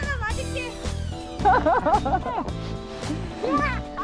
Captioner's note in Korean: 웃음